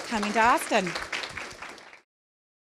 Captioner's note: clapping